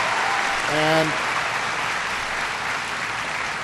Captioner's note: applause